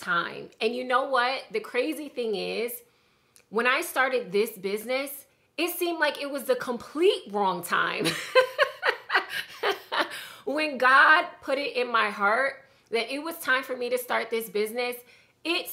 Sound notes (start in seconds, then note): 8.1 laughing